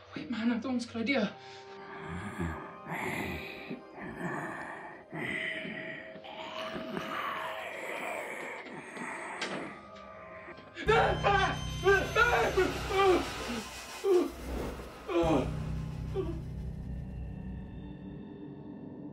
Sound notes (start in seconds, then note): 6.3 snarling; 11.5 yelling; 12.0 both yelling